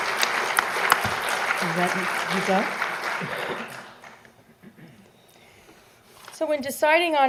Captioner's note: applause